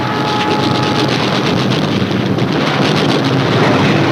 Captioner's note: guns firing